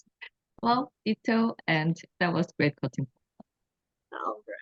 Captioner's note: speaks Korean